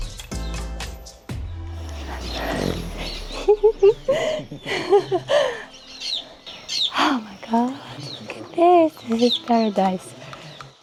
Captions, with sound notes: (LAUGHS) Oh, my God. Look at this. This is paradise.